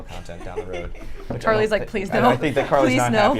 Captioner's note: laughs